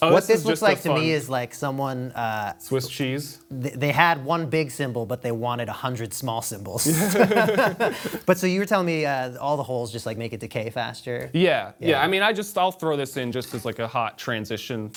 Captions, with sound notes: What this looks like to me is someone-- - Swiss cheese. - They had one big cymbal, but they wanted 100 small cymbals. (laughing) But so you were telling me all the holes just make it decay faster. - Yeah, yeah, I mean-- I just -- I'll throw this in just as like a hot transition